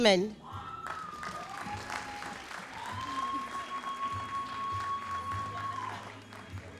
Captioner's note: all applauding and cheering